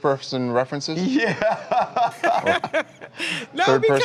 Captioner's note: laughter